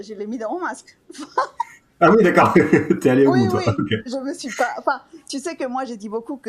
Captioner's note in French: rires